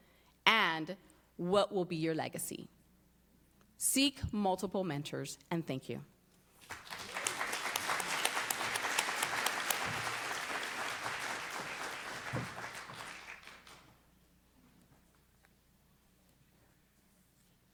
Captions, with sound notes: White would too, what's your passion and what will be your legacy? Seek multiple mentors and thank you. [APPLAUSE]